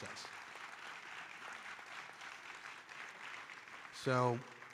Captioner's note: audience applauding